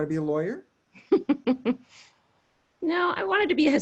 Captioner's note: laughs